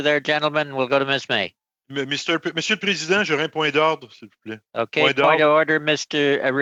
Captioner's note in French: voix de l'interprète